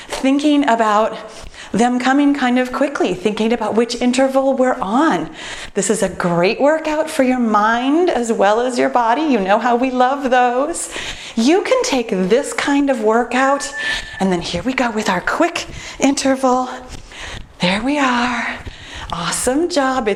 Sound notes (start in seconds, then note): 13.4 timer beeps